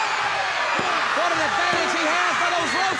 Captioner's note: hands thudding